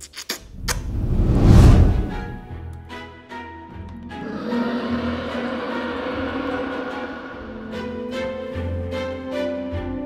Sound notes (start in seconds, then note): 0.2 slurping; 0.4 whooshing; 2.2 peppy music; 4.6 roaring